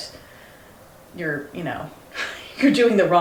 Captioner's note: laughs